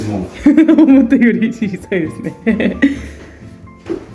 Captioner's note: disappointed chuckle